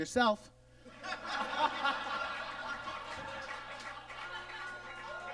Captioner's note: audience laughs